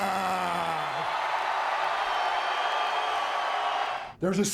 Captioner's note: audience cheering